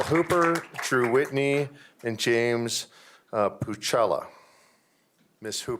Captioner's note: applause